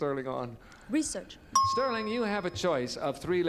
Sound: ding

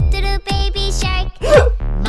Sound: sobbing

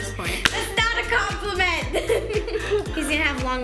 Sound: laughs

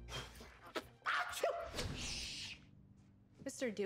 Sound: sneezes

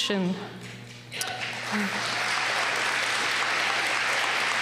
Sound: applause

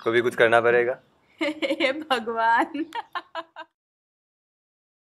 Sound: giggles

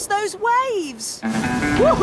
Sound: whoops and cheers

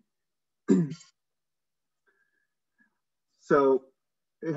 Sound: clears throat

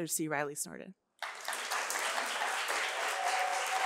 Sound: applause

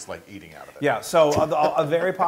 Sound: laugh

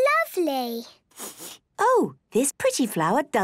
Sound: sniffs

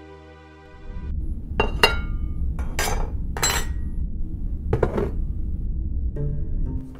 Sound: sounds of plates and utensils; comedic background music

